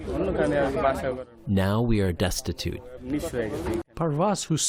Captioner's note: through translator